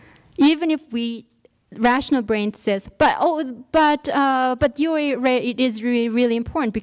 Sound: stuttering

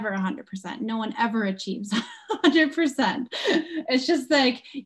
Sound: laugh

